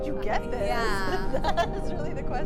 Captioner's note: interviewees chuckling